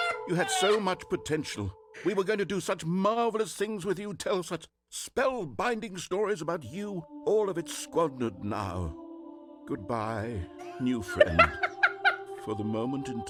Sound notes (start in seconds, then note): 0.0 laughs; 11.1 laughs